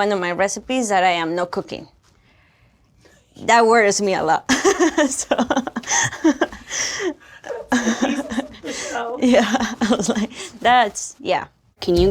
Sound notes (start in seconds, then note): 4.5 laughs